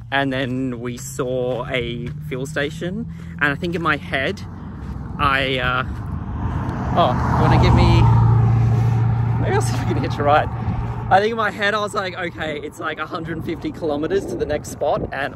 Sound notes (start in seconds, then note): 5.5 engine revving